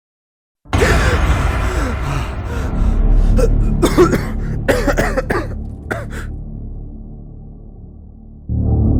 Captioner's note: panting and coughing